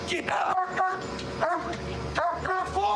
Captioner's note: barking